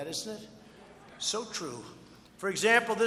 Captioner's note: laughter